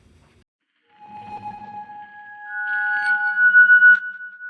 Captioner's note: logo swoosh